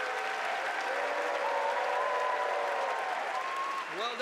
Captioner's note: applause